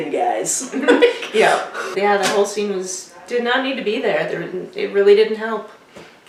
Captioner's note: laughter